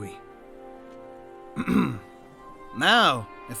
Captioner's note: clears throat